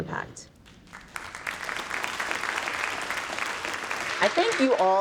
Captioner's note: audience clapping